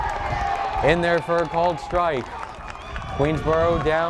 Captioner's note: crowd cheers